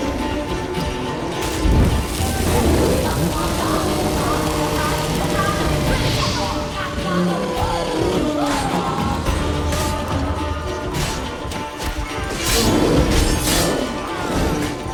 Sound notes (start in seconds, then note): 2.7 flames crackle; 13.1 growl